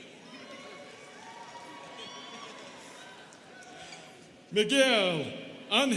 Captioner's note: students cheering